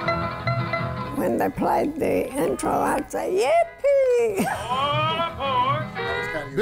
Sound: laughs

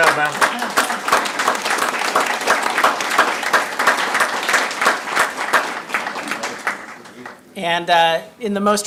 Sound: audience clapping

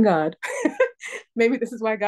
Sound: laughter

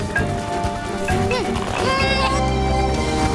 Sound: grunting

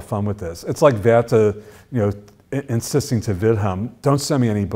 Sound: foreign language

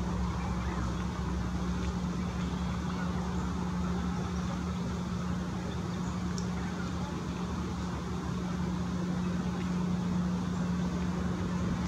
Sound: birds chirping

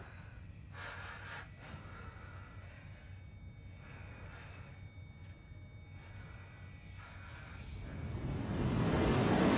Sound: high-pitched ringing

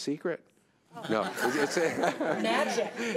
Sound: everyone laughing

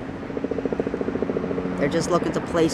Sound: plane engine roaring

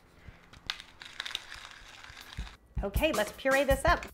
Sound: pepper grinding

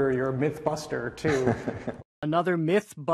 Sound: laughing

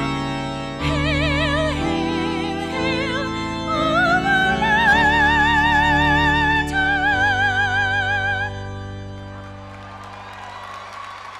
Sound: applause

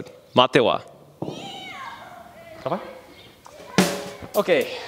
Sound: children shouting

